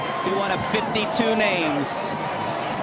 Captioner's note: cheering